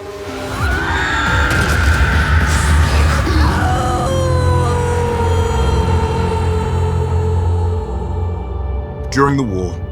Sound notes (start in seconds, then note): 0.4 shrieks; 3.1 howls